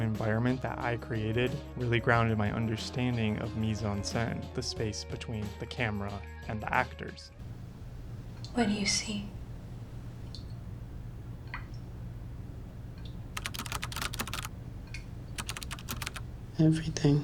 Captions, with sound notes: environment that I created really grounded my understanding of mise-en-scene, the space between the camera and the actors. What do you see? (keyboard clacking) Everything.